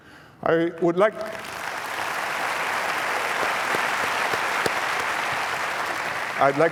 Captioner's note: applause